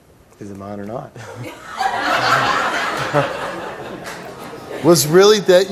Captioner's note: audience laughs